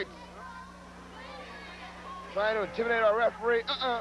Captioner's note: crowd chatter